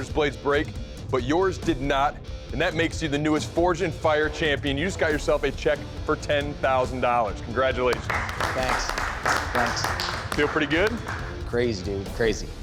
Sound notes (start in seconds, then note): 7.9 applause